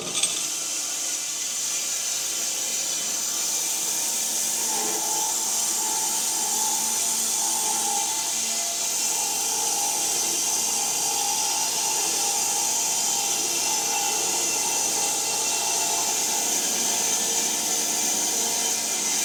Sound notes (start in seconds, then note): 2.2 saw buzzing